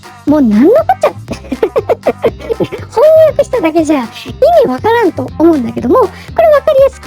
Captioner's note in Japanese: 笑い